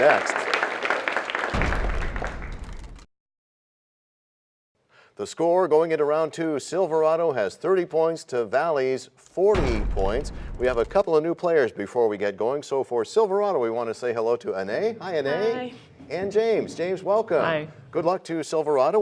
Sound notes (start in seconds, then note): 2.5 crashing sound